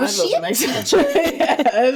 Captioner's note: laughs